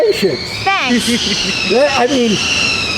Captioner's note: laughs